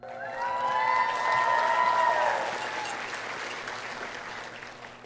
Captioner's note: audience cheering